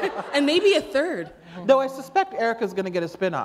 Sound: laughter

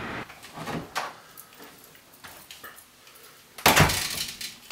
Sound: door opens and closes

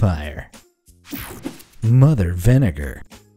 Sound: image whooshing

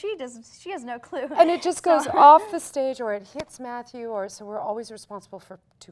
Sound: none

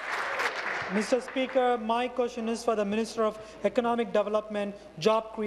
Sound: applause

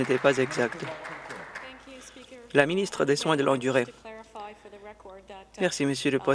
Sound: some Applause

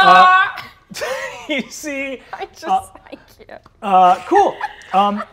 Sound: laughs

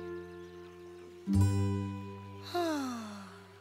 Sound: sighing

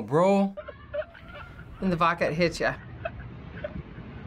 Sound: man chuckling

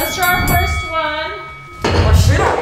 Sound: bell dings

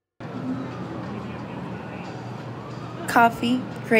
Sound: emergency sirens wailing distantly

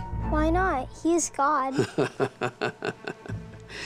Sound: sarcastic laughter

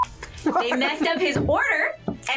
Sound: laughs

